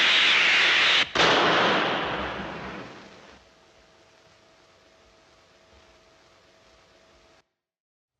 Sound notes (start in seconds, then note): 0.0 gunshot